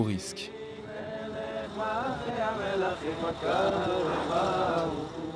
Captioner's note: Hebrew spoken audio